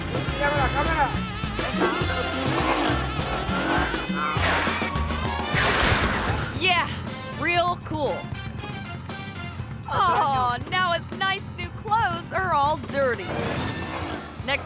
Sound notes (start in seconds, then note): 0.2 speaking in foreign language; 2.8 motorcycle engine revving; 4.3 tire screeching; 5.7 motorcycle slams